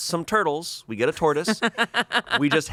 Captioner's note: laughs